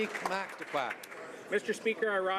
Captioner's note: some Applause